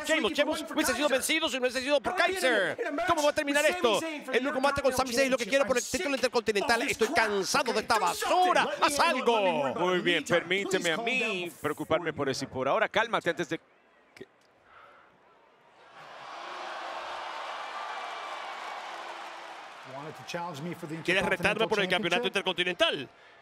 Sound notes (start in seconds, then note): 15.9 applause